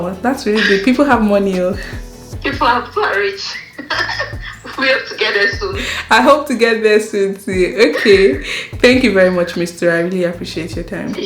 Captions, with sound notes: That's really good. People have money People have, people are rich! *both laughs* We hope to get there soon. I hope so too! Thank you very much, Misty. I appreciate your time.